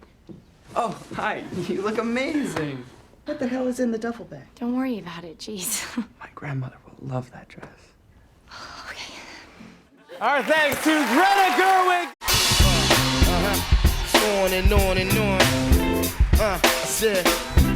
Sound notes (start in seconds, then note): 8.2 sighs